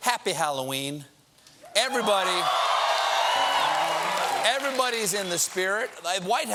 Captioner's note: cheers and applause